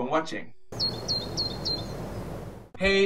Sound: birds chirping

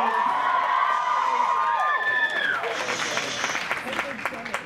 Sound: cheers; clapping

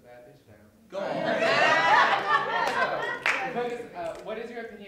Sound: laughter

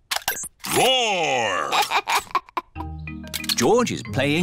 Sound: giggles

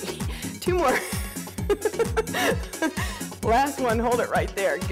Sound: laughing

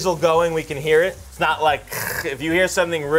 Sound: growls

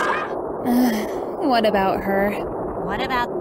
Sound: sigh

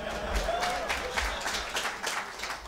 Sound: voiceover; audience applauds

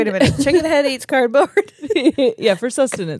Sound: laugh

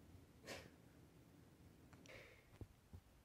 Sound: sobbing

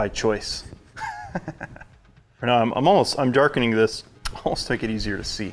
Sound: chuckles

